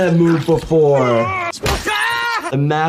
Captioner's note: man shrieks; hands smacks